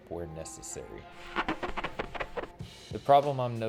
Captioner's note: squeaking